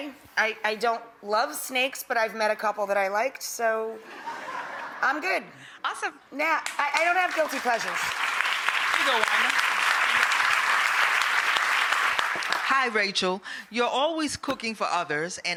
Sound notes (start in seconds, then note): 4.2 audience laughs; 8.3 audience applauding